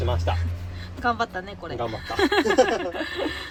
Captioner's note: laughs